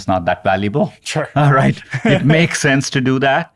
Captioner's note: chuckles